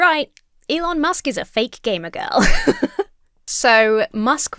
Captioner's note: laughs